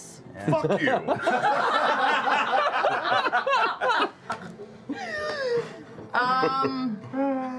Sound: laughter

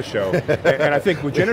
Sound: laughs

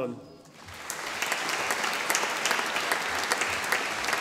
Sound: audience applauding

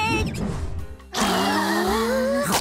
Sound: gasping

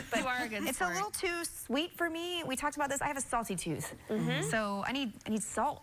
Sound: laughter

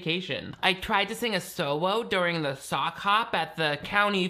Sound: baby voice

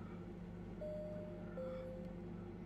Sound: ding Dong

